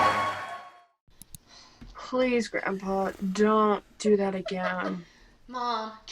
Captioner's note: audience applause; mouse click; multiple sighs; laughing